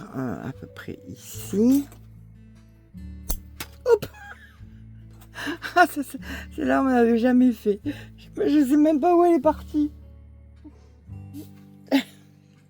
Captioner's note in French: rires